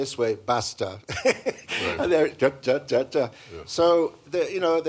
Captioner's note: laughs